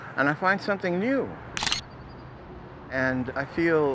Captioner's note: shutter clicks